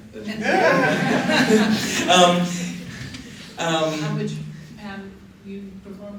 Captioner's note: laughter